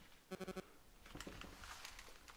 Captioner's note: electronic beeping